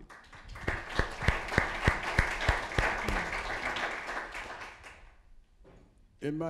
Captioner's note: applause